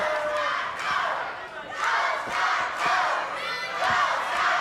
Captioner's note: audience chanting